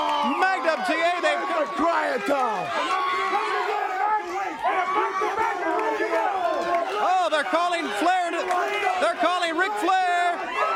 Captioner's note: crowd chatter